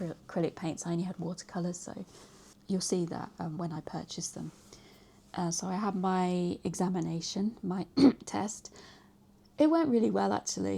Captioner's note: cough